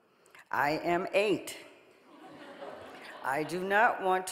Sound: audience laughing

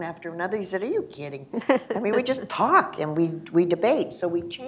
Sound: laughter

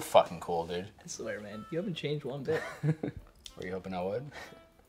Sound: chuckling

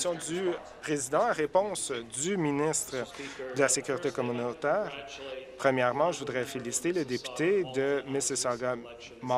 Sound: voice trailing

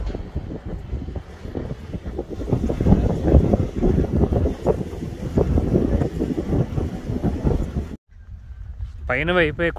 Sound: wind gushing

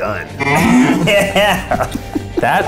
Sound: moos

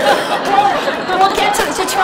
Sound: audience laughs

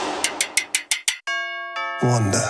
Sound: rattling; doorbell

